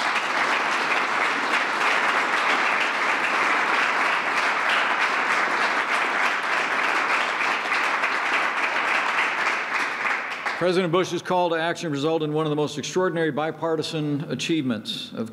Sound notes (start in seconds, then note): 0.0 applause